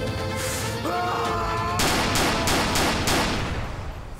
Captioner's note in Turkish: Bağırıyor ve ateş ediyor